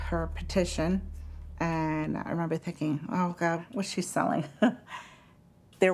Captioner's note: chuckles